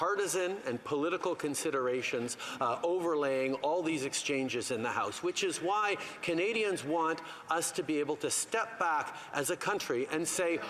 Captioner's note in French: voix de l'interprète